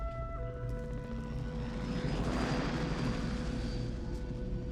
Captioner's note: helicopter passes